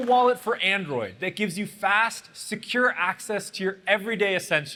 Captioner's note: applause